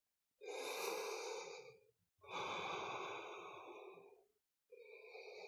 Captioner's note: inhale-exhale